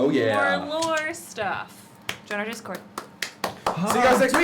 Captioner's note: cheering, clapping